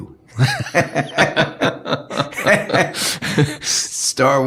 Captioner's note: laughing